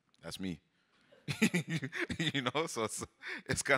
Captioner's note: laughs